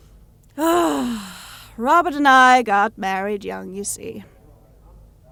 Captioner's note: she sighs